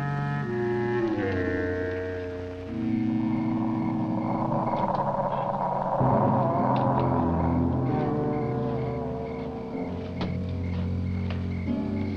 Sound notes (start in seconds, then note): 3.1 creature groaning; 3.1 insects chirping